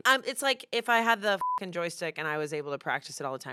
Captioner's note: beep